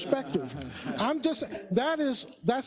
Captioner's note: laugh